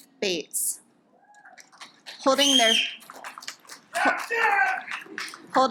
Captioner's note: audience applauds